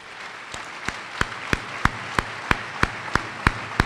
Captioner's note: applause